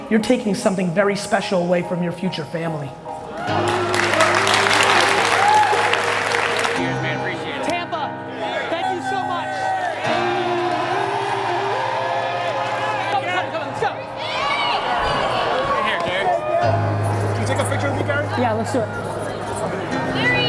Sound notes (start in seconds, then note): 3.3 audience applauds; 10.6 audience cheers